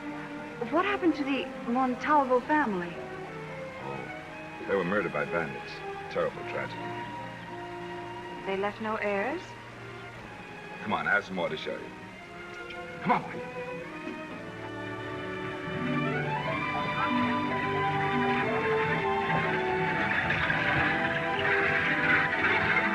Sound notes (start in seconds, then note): 12.5 clicking; 13.5 classical music; 19.9 wheels creaking